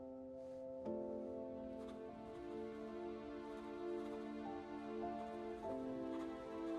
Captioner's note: pen scribbles; somber orchestral music